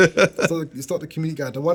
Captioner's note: laughing